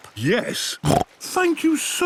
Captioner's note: snorts